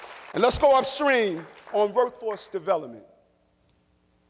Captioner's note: applause